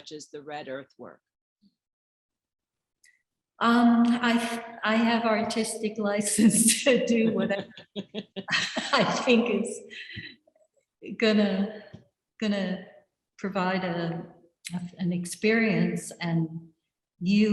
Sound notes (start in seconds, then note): 7.1 laughs